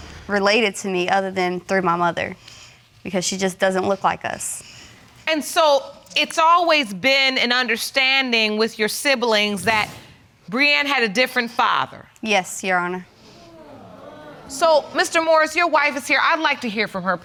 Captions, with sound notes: related to me, other than through my mother. Because she just doesn't look like us. And so it's always been an understanding with your siblings that Brianne had a different father. Yes, Your Honor. (AUDIENCE MURMURING) So, Mr. Morris, your wife is here, I'd like to hear from her,